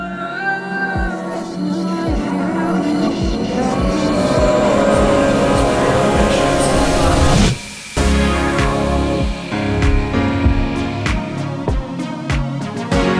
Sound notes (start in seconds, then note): 1.0 volume increases, samples increase in frequency